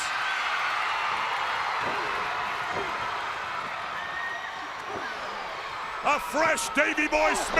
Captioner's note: crowd cheering